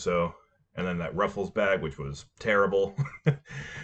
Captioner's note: chuckle